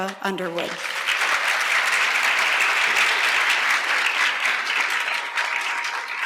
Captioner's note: applause